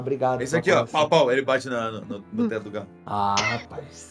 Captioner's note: pow pow